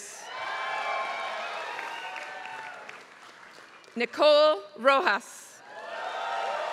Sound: applause; applause

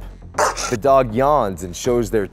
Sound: dog growls

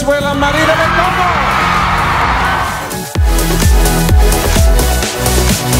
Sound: crowd cheering

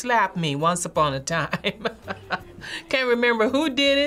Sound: chuckles

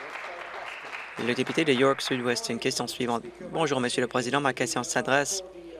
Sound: applause

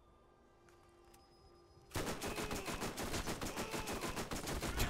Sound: laughs

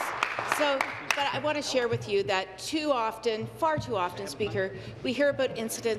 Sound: applause

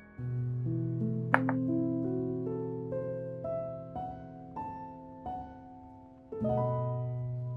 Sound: soft piano music begins; bowl clinks

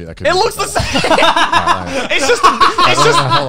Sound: laughing

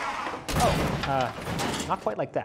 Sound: car crashing

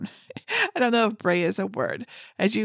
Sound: laughs

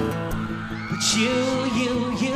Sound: audience applauding

